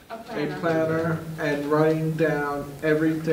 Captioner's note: students in unison